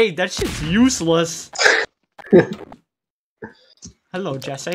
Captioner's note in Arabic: ضحك